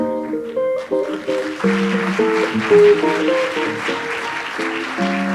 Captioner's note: audience applauds